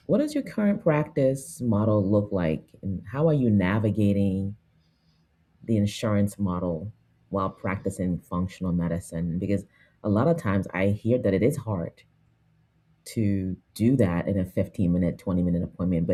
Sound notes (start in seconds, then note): none